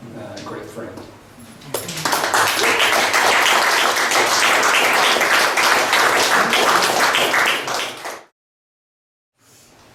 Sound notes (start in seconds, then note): 1.6 guests applaud